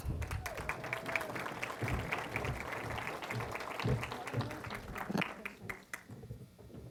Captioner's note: applause